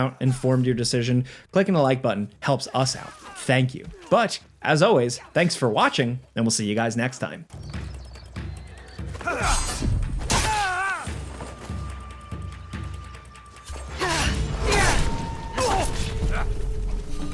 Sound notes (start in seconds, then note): 8.4 dramatic music; 10.3 swords clanging; 10.9 characters shouting